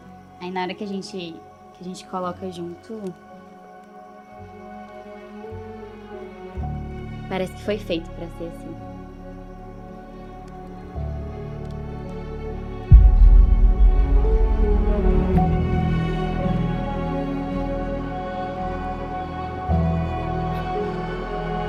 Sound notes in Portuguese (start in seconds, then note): 10.3 trilha romântica; 12.9 impacto